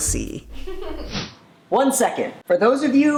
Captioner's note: laughs